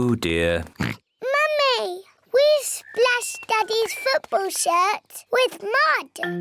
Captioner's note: oinks